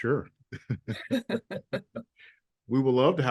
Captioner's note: group laughs